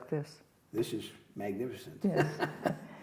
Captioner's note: laughs